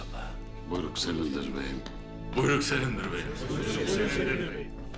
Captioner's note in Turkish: Hep bir ağızdan